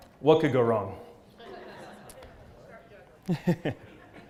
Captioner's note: laugh